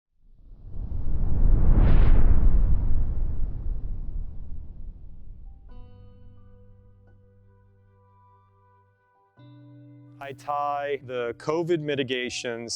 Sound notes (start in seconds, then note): 0.4 whooshing; 5.4 gentle music